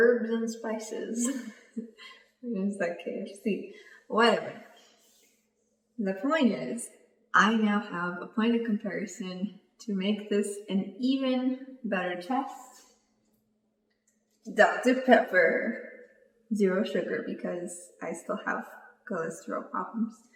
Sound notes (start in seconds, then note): 1.2 laughs